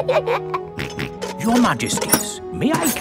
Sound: both giggle; snorts

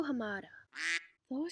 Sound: quack

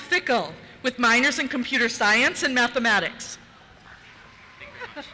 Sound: cheers

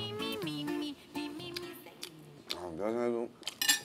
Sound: munching

